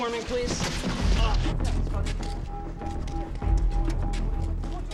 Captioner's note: distant chatter